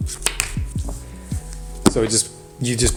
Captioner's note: card popping